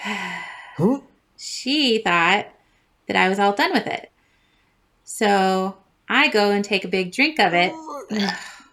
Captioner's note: sigh; gag; barf barf barf